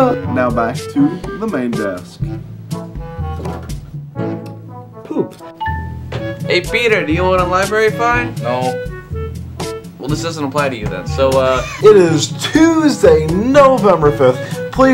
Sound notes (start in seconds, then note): 11.5 wheeze